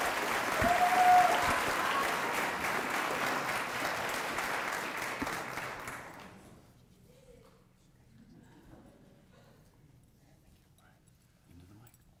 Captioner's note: applause